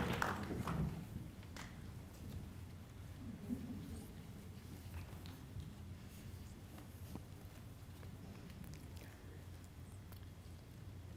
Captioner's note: applause